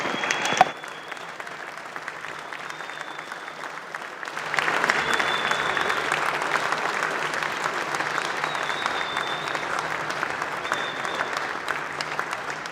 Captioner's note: applause